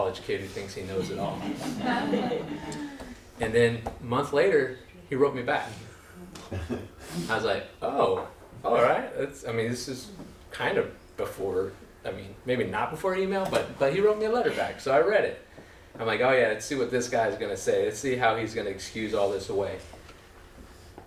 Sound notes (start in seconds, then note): 1.0 laughter